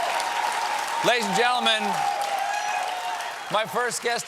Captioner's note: cheers and applause